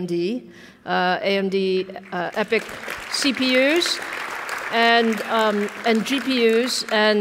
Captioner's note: audience applauds